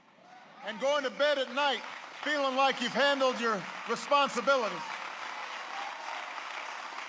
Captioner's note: applause